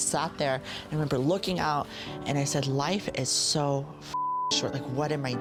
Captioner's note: beep